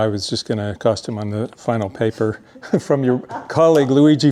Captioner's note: chuckles